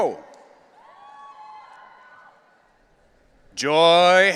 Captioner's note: audience cheering